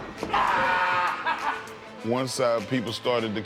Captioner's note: Mark yells